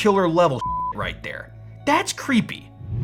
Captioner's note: beep